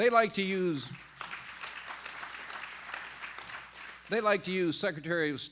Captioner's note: applause